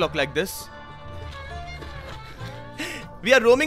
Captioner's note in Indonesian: Suara berjalan